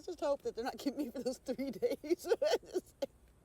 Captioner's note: laughing